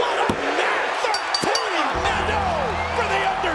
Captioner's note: bell dinging